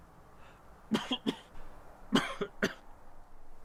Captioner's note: coughing